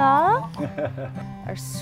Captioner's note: laughs